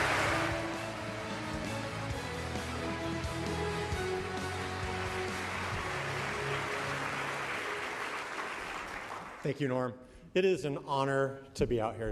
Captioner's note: applause